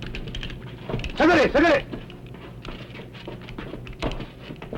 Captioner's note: speaking japanese